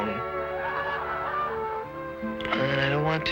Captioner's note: laughter